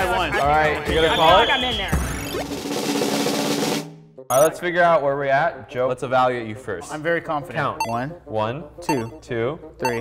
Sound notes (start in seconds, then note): 0.9 whistle; 2.4 drum roll